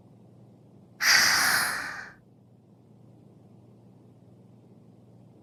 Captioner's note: inhale